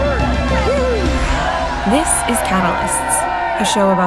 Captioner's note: all cheer